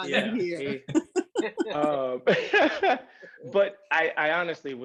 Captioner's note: laughs